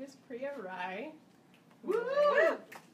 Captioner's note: audience cheering